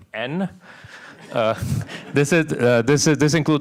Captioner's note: laughter